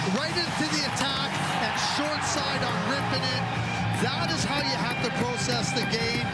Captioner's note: cheering and Applause